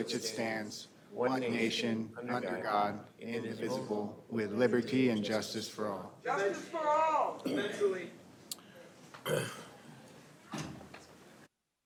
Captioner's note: reciting the pledge of allegiance